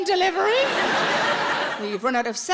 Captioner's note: audience laughs